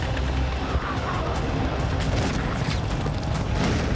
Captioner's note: gunshots